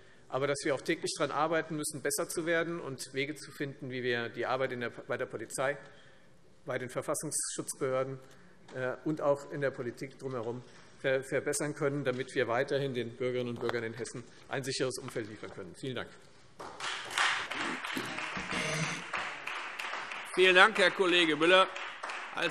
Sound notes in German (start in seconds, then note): 16.6 Beifall Freie Demokraten